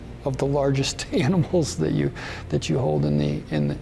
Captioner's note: chuckles